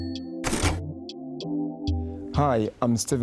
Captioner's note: typewriter dings; typewriter rattles